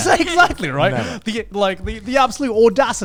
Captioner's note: laughs